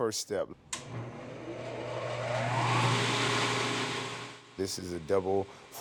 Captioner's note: machine whirring